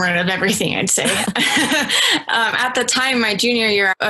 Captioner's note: laughs